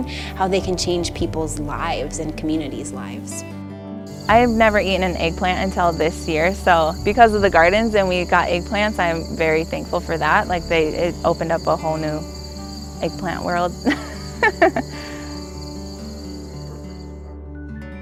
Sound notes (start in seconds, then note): 13.3 laughs; 15.3 guitar music